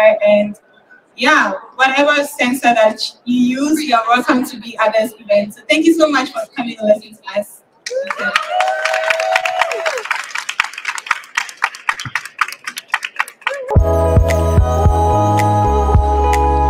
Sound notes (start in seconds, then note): 7.8 cheering and applause